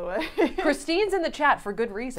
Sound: chuckling

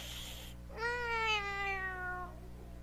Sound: meow

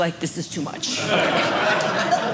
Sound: audience laughing

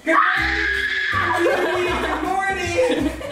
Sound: kids scream

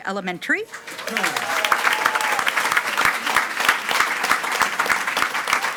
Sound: attendees cheering and clapping

